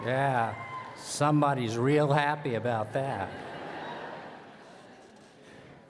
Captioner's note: laughter